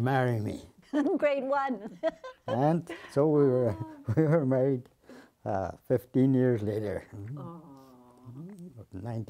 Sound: laughing

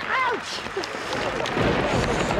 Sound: thunder

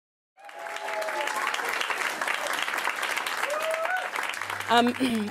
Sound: audience claps and cheers

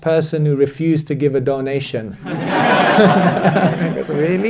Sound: audience laughter

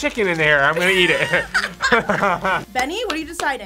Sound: both laugh

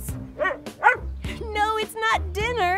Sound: Taffy barks

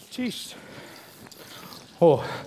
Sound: foreign speaking

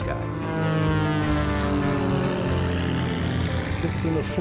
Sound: airplanes humming

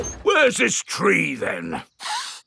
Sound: none

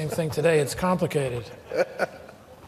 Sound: laughter

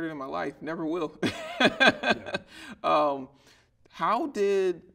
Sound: laughing

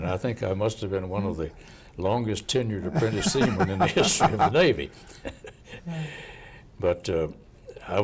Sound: laughing

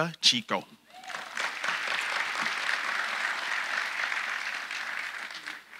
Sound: audience applauding

